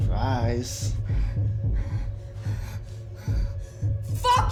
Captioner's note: Dorothy gasping